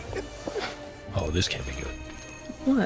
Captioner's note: doorbell jingles